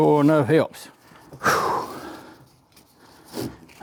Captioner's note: exhales